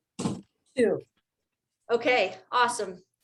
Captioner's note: object thuds